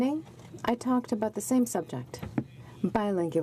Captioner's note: none